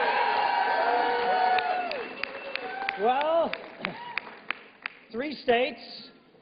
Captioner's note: applause